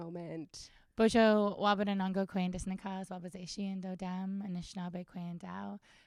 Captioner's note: speaks in Indigenous language